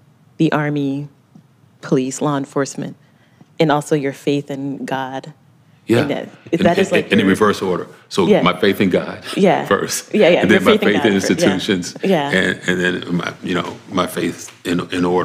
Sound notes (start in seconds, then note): 6.6 chuckles